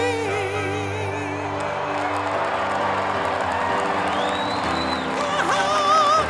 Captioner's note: applause